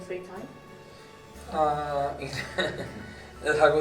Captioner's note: laughs